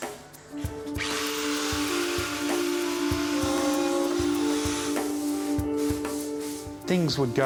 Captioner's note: gentle dramatic music; drill buzzing